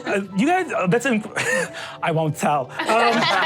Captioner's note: stutters; audience laughs